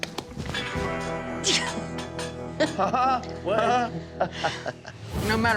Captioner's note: laughs, instructor sighs